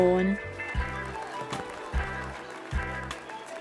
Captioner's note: quiet clapping